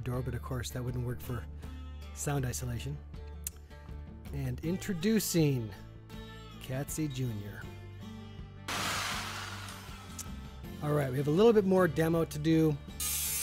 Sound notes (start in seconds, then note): 8.7 motor whirring